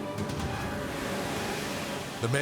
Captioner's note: suspenseful music; waves roaring